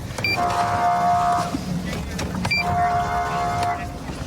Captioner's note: horn blaring